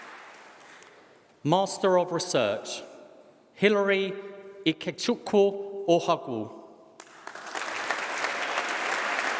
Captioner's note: applause